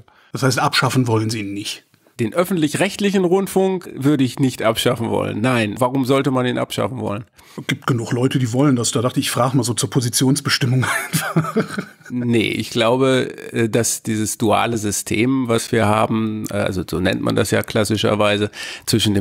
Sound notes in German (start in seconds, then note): 10.8 lacht